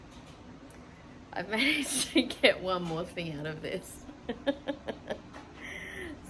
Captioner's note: laughs